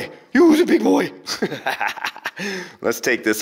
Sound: laughs

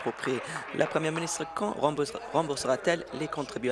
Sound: applause

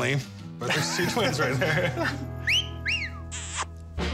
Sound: both chuckle; wolf-whistle

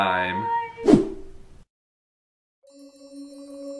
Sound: footage whooshes; enchanting music

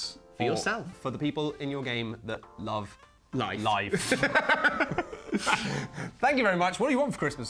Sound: both laugh

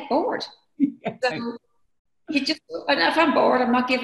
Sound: laughing

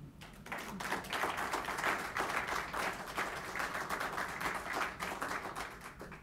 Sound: applauding

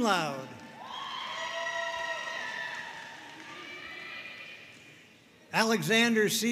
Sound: audience cheering and applauding

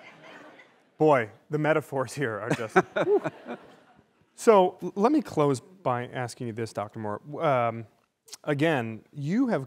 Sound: laughter

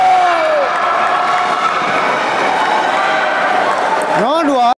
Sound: applause

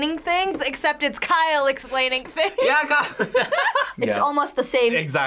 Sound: laughs

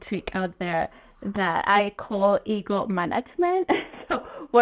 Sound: chuckles

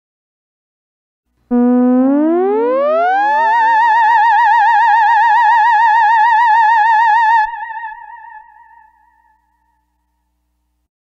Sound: sound of sci-fi scare

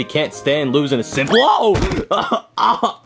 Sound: coughs

